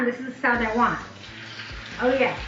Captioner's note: steak sizzling